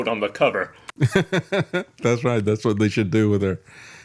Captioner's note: laughs